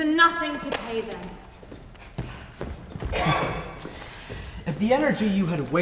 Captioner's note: footsteps exiting with keys jingling